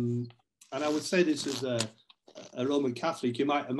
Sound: paper rustling

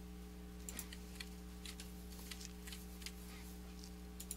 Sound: mouse clicking

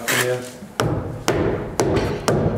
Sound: banging

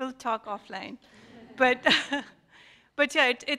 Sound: laughs softly

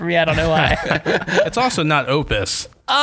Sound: laughter

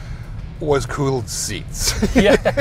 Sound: laughing

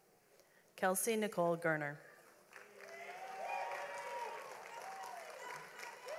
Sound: audience applauds

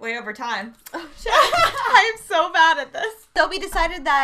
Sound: laughs

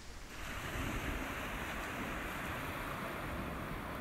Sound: sea crashes

